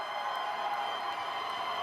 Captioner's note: cheers and applause